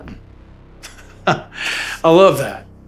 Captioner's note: laughs